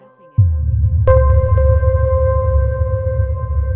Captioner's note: water rumbling